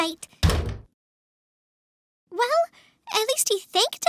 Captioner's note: door shuts